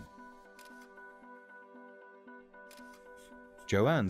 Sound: camera clicking

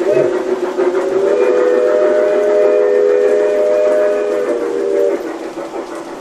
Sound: sounds of a steam train chugging and a steam whistle blowing; sounds of diesel locomotives going

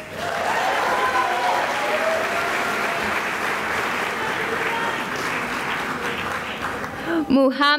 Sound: cheering and applause

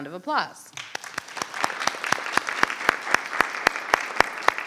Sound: audience applauds

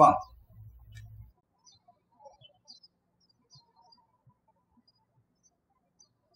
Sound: birds chirping

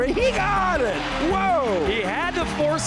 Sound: crowd cheering

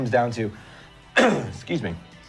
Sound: coughs

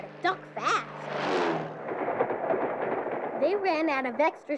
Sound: airplane engine hums

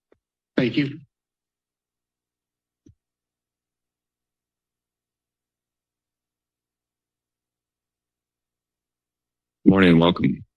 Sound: silence

